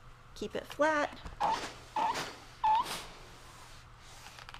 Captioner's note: iron squeaks